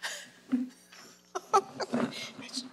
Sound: laughs

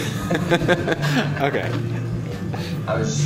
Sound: laughing

